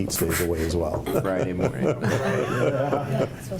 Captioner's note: laughs